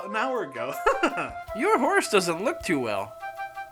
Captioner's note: צוחק